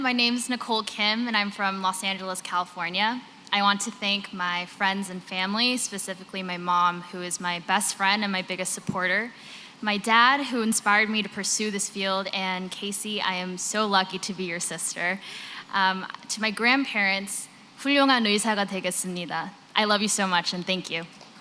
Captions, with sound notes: My name is Nicole Kim, and I'm from Los Angeles, California. I want to thank my friends and family, specifically my mom, who is my best friend and my biggest supporter, my dad, who inspired me to pursue this field, and Casey, I am so lucky to be your sister. To my grandparents-- [NON-ENGLISH].. I love you so much, and thank you.